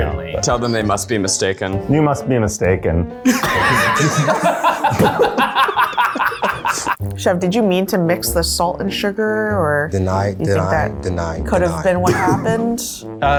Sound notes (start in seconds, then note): 3.2 laugh; 6.1 laughing